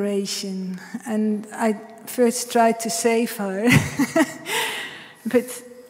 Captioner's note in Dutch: lacht